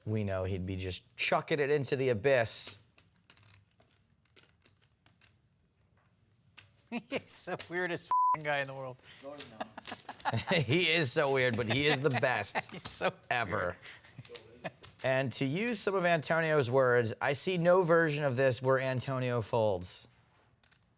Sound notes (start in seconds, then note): 9.4 laughs